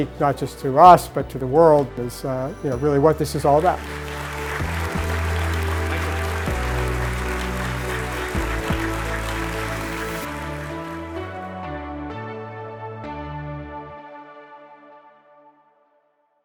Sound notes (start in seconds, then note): 3.3 audience clapping; 4.5 inspirational music